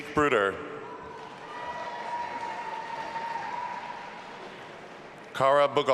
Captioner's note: audience applauding and cheering